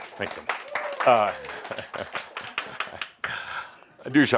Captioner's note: audience applause, Adamus chuckles